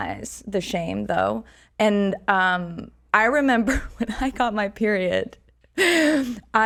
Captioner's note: laughs